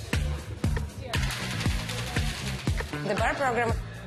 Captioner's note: mixer rattling